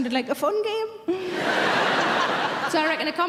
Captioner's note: audience laughing